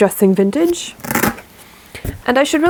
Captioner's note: velcro ripping sound